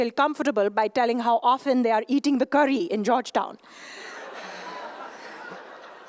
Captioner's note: laughter